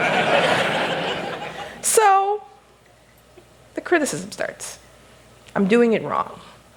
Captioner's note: laughter